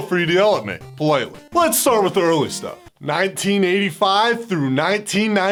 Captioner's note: politely